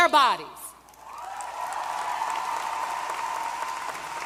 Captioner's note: applause